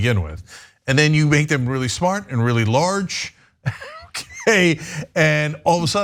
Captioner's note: laugh